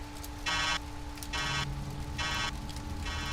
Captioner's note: roboty beeps